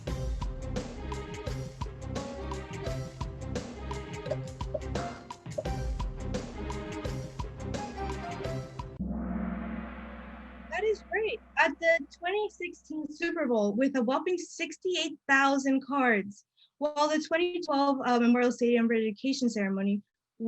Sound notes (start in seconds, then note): 9.0 gong